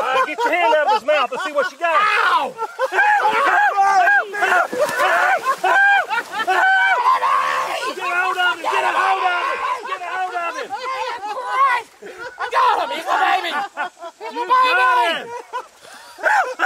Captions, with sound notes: - All right, get your hand out of his mouth, let's see what you got. [yelling and laughing] - Get him off of me. - Get a hold of him. - I got him, he's my baby, he's my baby.